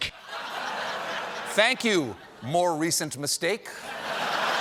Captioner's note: laughter